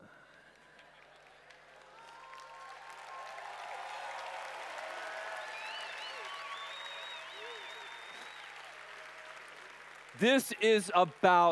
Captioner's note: applause/Cheers